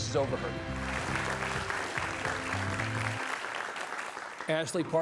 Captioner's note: audience clapping